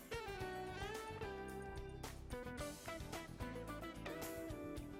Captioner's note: none